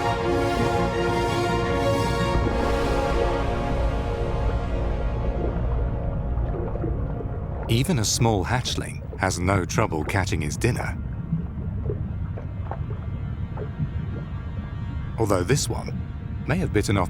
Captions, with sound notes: (water sloshes) Even a small hatchling has a no trouble catching its dinner. (water sloshes) Although this one may have bitten off